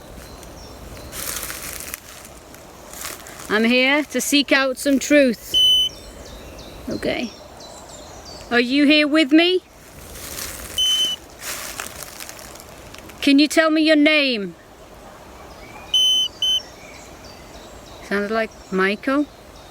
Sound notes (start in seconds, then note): 0.2 birds chirping; 0.2 leaves rustling; 5.5 beep; 7.8 birds chirping; 10.6 leaves rustling; 10.8 beep; 15.8 birds chirping; 15.9 beeping